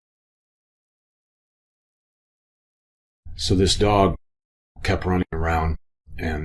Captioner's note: none